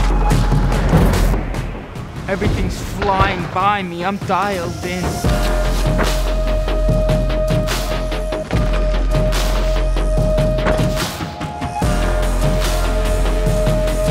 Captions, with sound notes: Everything's flying by me. I'm dialed in. [CHAIN ZIPPING] [ELECTRONIC MUSIC]